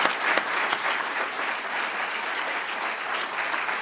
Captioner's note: applause